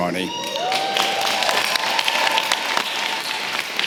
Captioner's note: applause